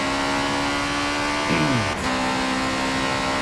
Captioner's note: clears throat